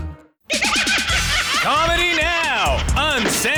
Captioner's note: laughing